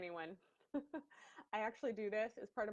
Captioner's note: laughs